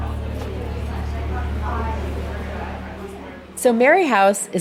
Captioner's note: people chatting